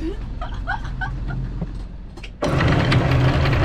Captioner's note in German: lacht